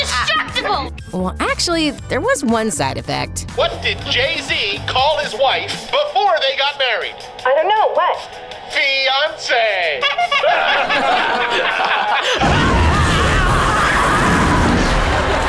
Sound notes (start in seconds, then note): 10.0 laughing; 12.2 screaming